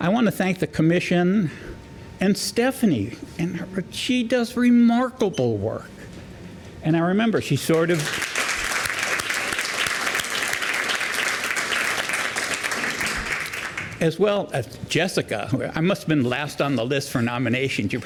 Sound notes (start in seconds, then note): 7.7 applause